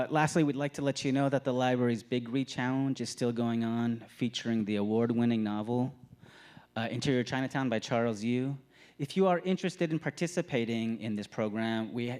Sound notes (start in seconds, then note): none